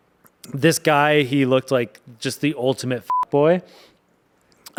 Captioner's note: beep